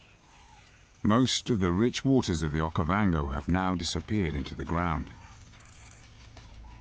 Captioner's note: birds chirping; dramatic music